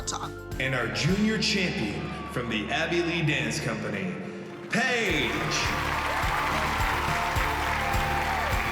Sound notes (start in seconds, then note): 4.4 all cheering and applauding